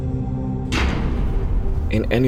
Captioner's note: door opening